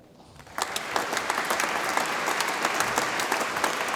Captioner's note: audience applauds